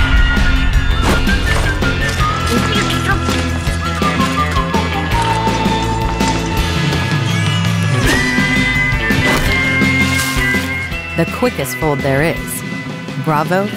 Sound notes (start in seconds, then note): 1.5 blonde women muttering and grunting